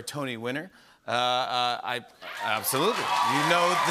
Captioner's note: cheers and applause